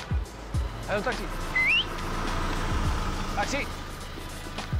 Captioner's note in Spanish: Silbido